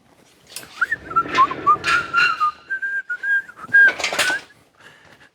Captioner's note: whistling